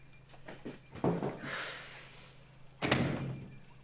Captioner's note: sigh